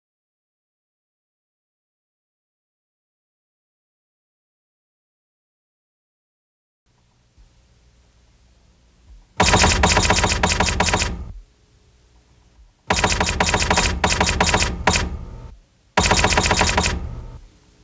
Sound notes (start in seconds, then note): 9.7 typewriter typing